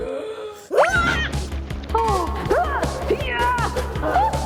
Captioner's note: Blueberry gasping; Blueberry groaning